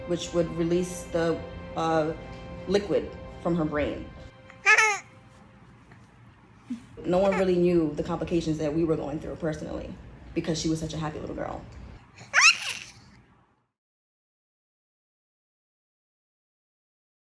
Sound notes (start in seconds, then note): 4.5 chuckles; 12.2 squeals